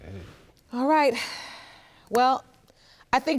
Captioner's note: sighs